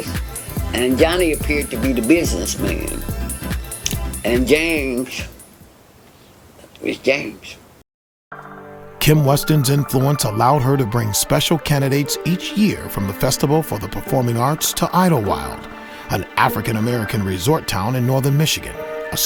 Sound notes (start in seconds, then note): 8.8 voiceover